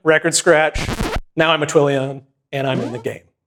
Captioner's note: record scratches